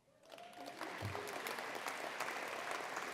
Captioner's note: applause